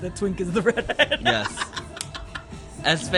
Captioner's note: laughs